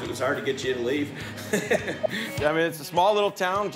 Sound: laughing

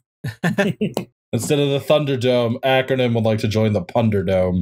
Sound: laughter

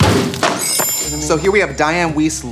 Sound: chimes

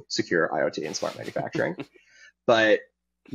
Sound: chuckling

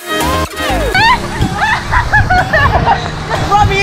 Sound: screaming and laughing

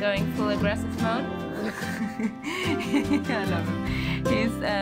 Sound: laughter

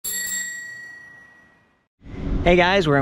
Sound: bell ringing

